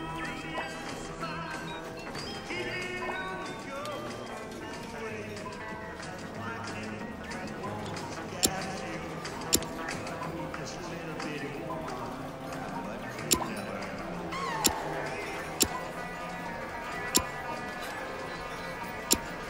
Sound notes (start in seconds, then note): 8.4 hammer clicks; 13.2 trigger clicks; 19.0 trigger clicks